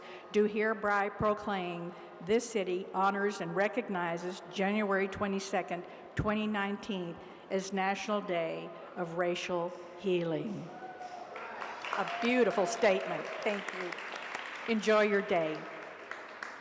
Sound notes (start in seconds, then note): 10.8 audience applauds and cheers